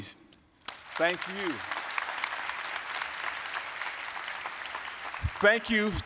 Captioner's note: applause